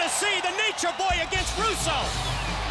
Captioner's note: crowd cheering